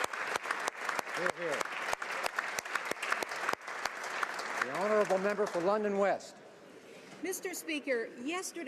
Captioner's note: applause